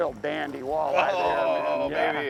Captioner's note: grunts with excitement